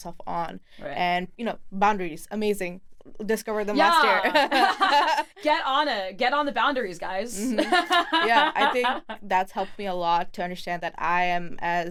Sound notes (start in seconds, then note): 7.4 both laughing; 7.4 laughs